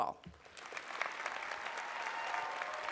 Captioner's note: applause